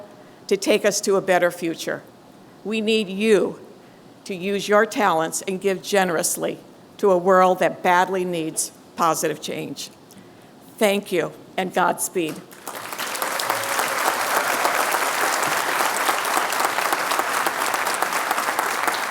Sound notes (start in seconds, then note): 12.4 applause